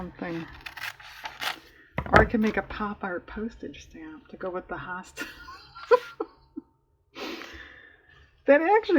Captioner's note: laughs